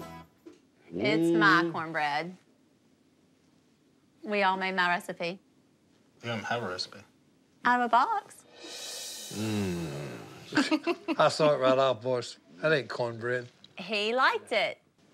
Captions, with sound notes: - Mm-hmm? - It's my corn bread. We all made my recipe. - You don't have a recipe. - Out of a box. - Mmm. - [giggles] - I saw it right off, boys. That ain't corn bread. - He liked it.